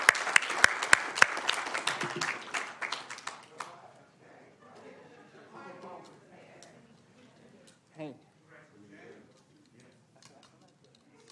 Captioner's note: applause